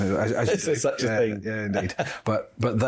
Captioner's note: laughter